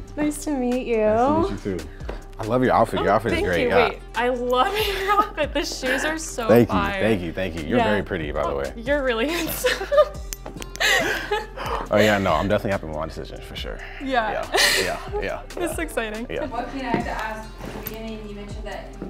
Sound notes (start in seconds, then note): 10.7 chuckles